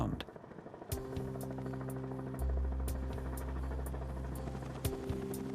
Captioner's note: helicopter blades whirring overhead